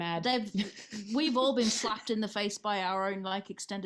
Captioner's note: laughs